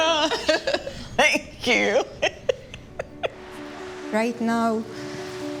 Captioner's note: laughs